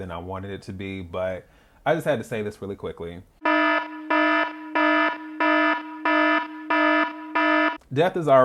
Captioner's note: warning Alarm